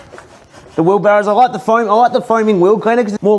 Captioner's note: brushes tires